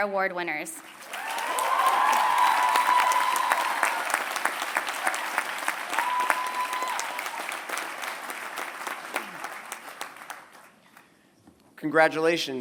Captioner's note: applause